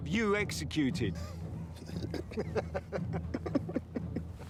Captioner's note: warriors laugh